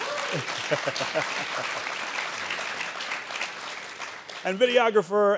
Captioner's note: audience applauding